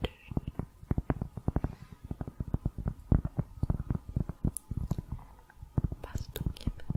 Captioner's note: tapping on cork